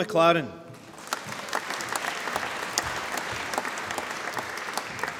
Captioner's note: applause